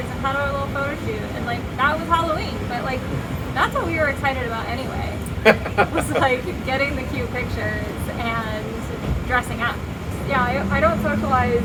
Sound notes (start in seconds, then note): 5.2 laughs